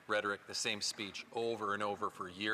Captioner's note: speaking French